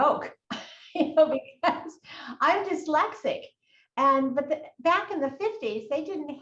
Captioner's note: laughs